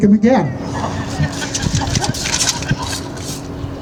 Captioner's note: laughter